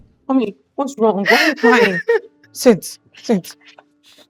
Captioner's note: crying